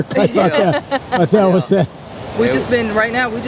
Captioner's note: laughs